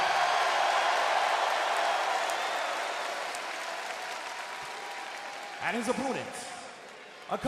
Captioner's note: crowd cheering